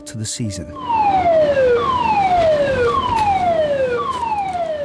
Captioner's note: alarm blaring